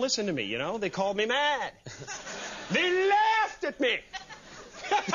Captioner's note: laugh